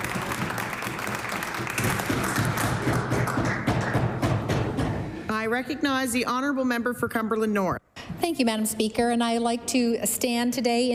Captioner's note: applause; cheers